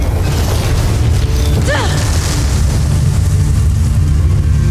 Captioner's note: infernal whoosh-crackle; grunts; infernal whoosh-crackle; heavy music playing; molten surge rumbles